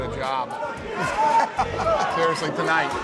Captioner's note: Dana laughs